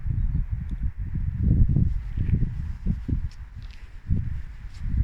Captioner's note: wind